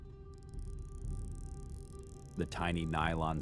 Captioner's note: zip tie clicking